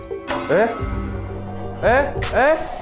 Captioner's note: door shuts suddenly